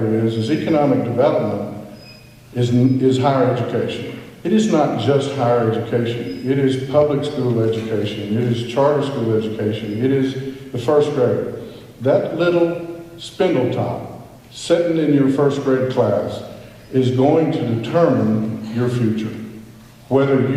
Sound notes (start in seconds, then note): none